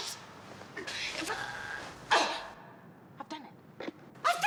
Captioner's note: Badsister #2 grunting